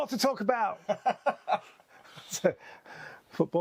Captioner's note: both laughing